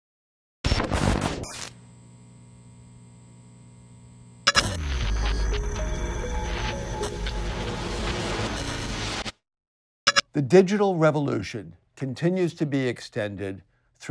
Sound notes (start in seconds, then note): 1.0 electric buzzing; 5.4 bright upbeat music